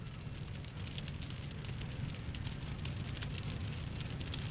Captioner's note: fire crackles